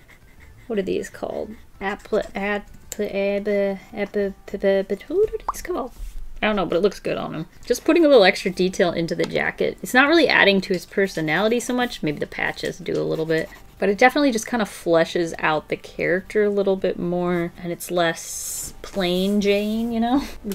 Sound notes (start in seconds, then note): none